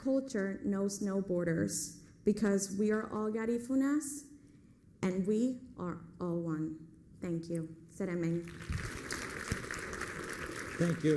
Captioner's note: foreign language